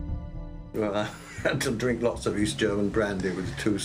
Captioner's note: laughing